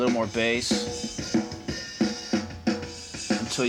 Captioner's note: pitch lowers